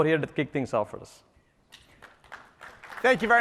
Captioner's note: applause